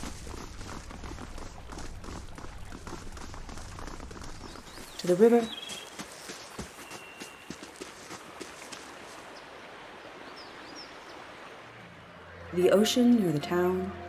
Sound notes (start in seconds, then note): 0.0 heavy, thudding footsteps; 5.4 gentle, flowing water; 6.0 footsteps, mixture of sand and grassy crunches; 6.0 several birds singing off and on